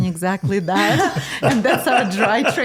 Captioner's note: laughing